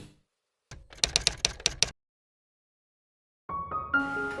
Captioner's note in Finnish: kirjoituskoneen naputusta